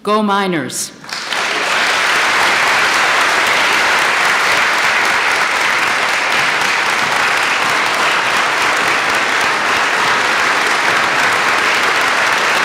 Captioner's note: applause